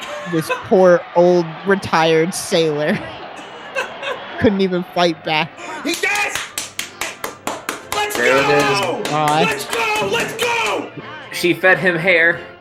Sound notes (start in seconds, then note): 5.8 starts to clap; 6.1 excited